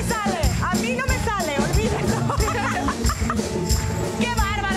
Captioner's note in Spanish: Ríe